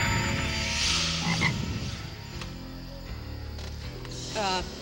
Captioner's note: frog croaks